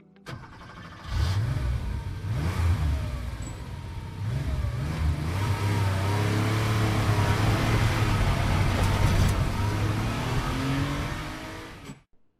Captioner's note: sound of car revving and speeding away